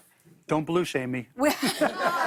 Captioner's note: laughter